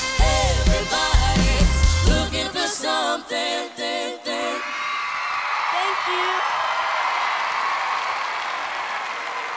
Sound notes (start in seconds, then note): 4.4 crowd roaring; 6.7 cheering